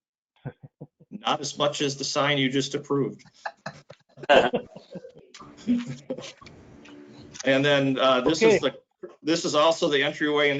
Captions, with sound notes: Not as much as the sign you just approved. (laughs) And then this also the entryway,